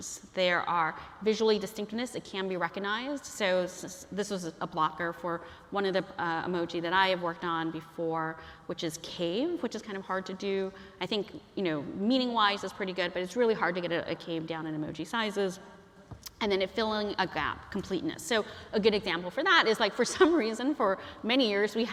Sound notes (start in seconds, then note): none